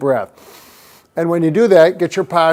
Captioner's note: deep inhale